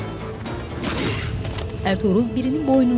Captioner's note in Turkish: Boyun kırılma sesi